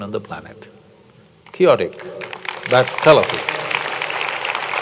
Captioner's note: applause